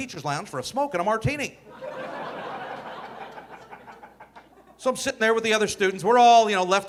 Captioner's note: audience laughing